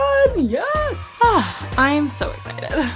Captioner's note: children cheering